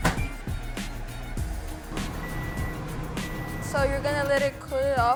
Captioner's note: microwave door slamming; microwave beeping